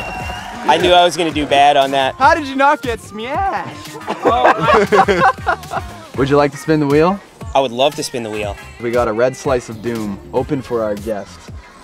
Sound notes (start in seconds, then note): 0.0 cheers and whistling; 3.4 laughs